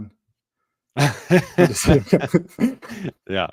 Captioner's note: chuckling